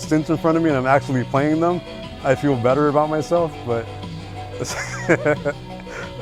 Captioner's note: laughs